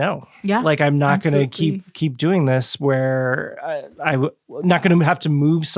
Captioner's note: stammering